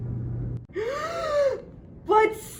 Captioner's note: Pyramus gasps